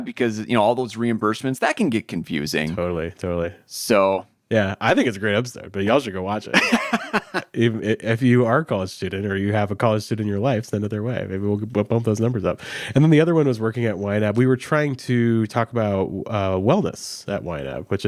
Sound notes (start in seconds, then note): 6.5 laughs